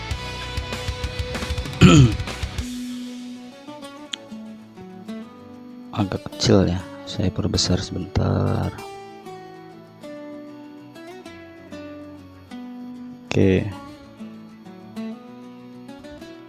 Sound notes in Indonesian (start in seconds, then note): 1.8 berdehem